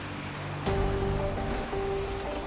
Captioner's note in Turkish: El freni çekme sesi